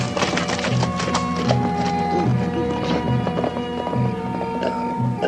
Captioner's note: stammering